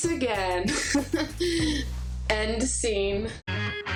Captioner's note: laughs